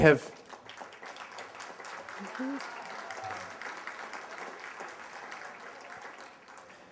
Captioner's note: applause